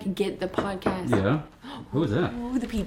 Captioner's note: hand knocks